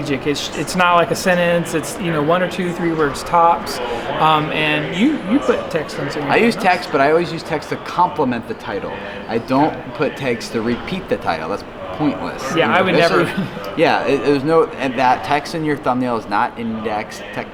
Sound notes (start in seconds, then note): 14.3 laughs